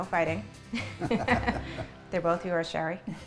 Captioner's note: laughing